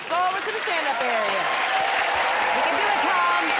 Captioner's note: cheers and applause